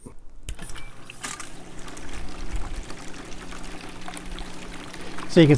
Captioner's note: spraying